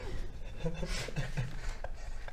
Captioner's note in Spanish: risitas nerviosas